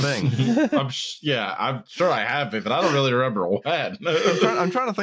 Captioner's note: laughter; laughs